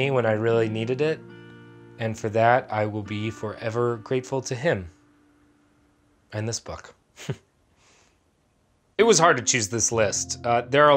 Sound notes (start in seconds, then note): 7.2 chuckles